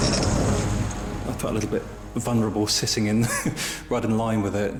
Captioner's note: chuckling